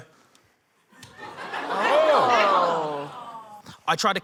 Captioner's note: laughter